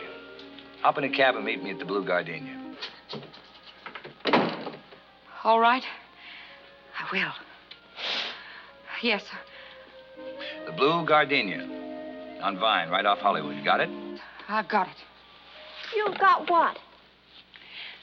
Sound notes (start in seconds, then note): 3.8 door opens, closes